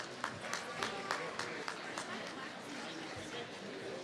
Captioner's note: applause